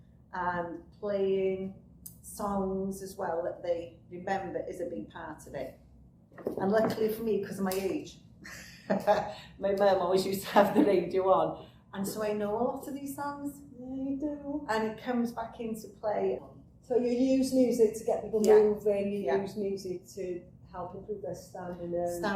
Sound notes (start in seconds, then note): 8.9 laughs